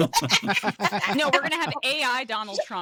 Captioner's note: laughs